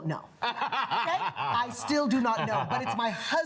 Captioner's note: laughs